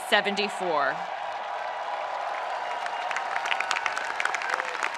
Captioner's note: spectators cheering